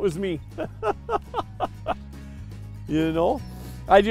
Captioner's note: laughing